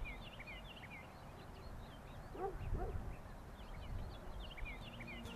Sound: birds chirping; dogs barking; lighthearted music

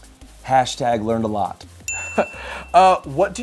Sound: bell chimes; laughing

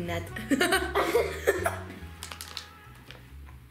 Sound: giggles

